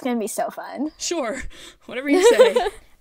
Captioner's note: sarcastically